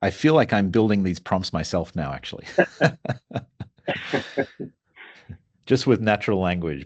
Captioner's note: laughing